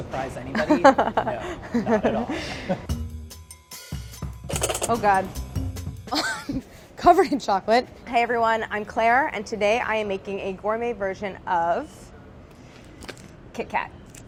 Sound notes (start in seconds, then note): 0.6 Claire laughing; 4.4 upbeat music